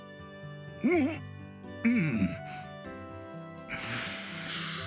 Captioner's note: gasps